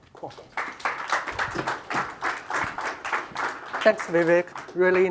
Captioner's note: audience applauds